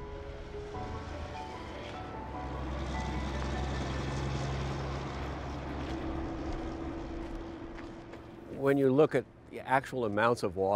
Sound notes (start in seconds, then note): 1.1 engine rumbles